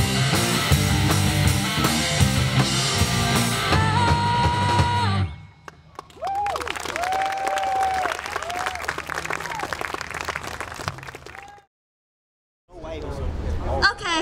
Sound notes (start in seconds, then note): 5.6 audience applauds